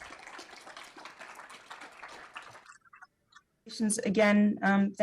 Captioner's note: audience applauding